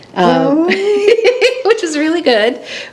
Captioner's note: laughs